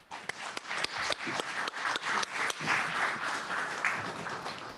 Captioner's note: applause